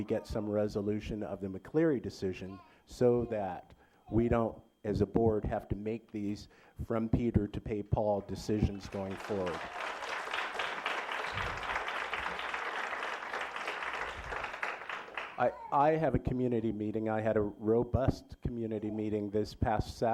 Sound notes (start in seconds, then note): 14.6 applause